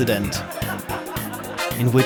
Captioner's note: laughter